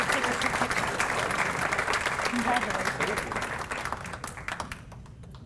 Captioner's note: applause